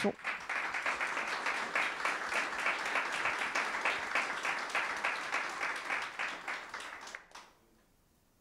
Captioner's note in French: applaudissements